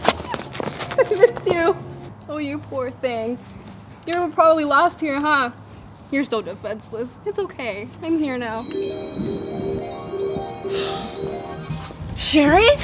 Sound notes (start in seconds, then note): 8.6 magic noises; 11.4 gasps